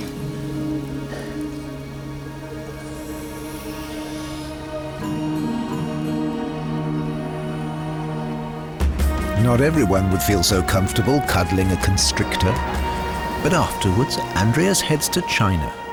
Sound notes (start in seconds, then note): 0.1 tense music; 2.8 hissing